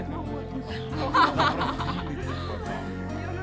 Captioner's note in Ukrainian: сміх